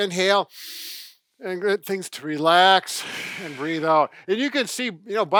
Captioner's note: inhaling; exhaling